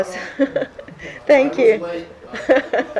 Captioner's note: laughter